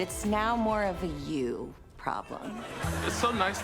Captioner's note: studio audience laughs